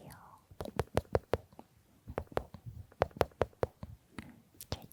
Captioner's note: patting patting